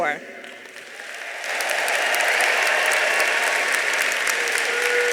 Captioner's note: audience applauding